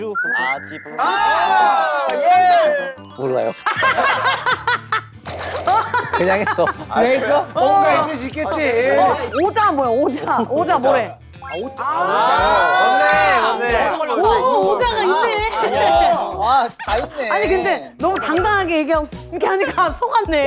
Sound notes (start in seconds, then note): 5.4 laughing